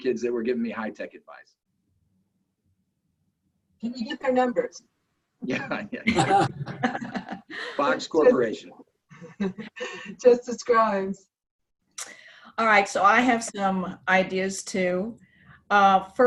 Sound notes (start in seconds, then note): 5.5 both laughing